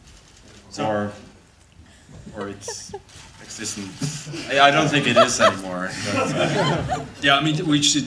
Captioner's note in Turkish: kahkahalar